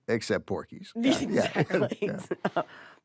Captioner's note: laughs